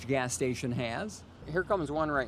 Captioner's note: sound of gas pump; sound of pumping gas